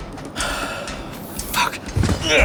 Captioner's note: sighs